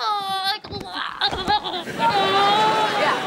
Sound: moaning

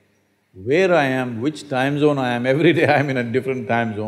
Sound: laughs

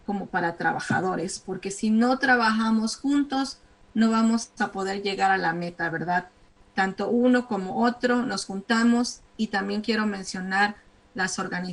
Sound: speaking spanish

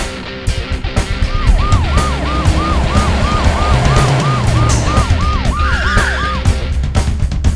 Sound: police siren wails

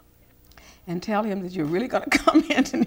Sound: laughs

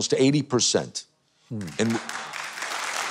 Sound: audience cheering

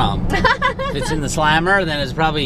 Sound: laughs

